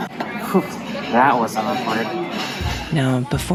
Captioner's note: exhales